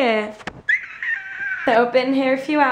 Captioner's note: squealing